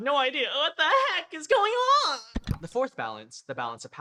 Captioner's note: click